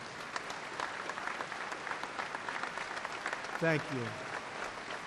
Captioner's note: applause